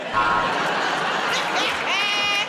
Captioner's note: buzzer buzzes; laughter